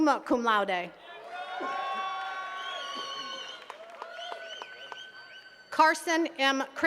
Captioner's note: attendees cheering and clapping